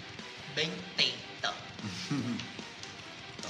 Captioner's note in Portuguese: risada